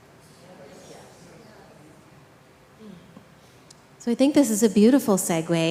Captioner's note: group chattering